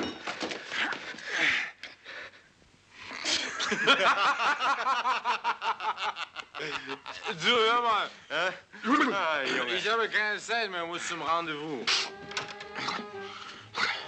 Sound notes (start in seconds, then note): 3.3 men laughing